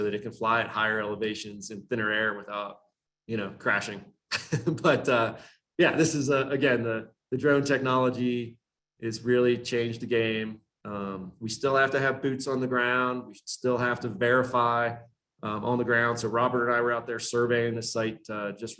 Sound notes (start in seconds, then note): 4.3 chuckles